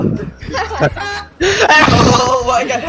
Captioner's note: goose Honk; hurricane sounds